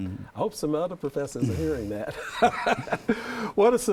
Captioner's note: laughs